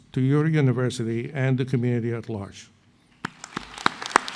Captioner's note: applause